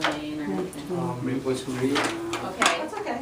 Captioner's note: voiceover